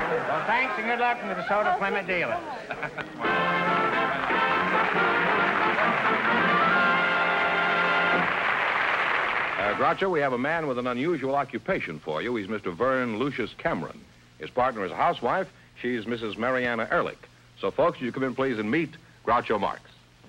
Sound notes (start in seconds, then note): 3.1 applause